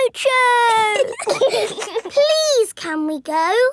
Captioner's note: giggling